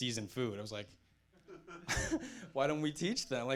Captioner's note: audience chuckling